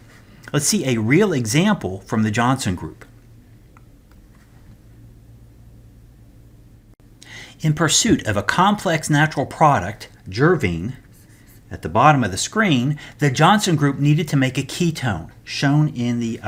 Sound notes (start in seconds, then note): 4.2 turn page